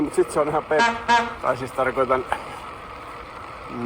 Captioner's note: HONK-HONK * -noise